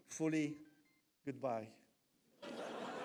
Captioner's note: phone beeps; audience laughs